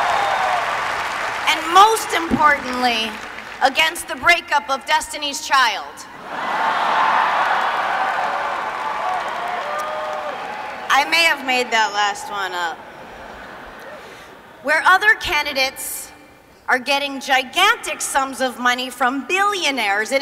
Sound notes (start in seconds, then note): 0.0 applause; 6.3 laughter